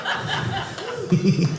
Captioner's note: audience laughing